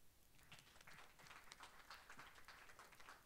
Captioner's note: applause